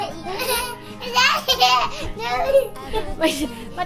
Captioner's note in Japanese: 笑いが止まらない２人